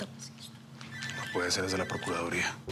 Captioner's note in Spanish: suena el celular